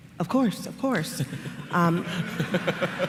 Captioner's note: laughter